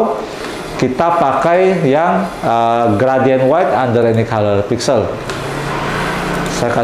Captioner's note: printer machine sound